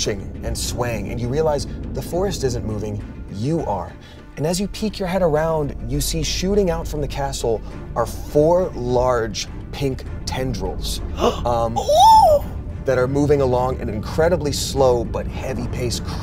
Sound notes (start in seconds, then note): 11.7 gasps and squeals